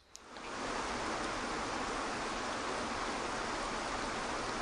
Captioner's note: waterfall cascading